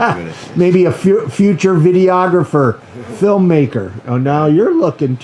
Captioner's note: laughs